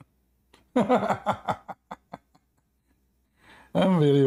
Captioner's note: Ketawa